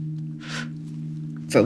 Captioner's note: exhale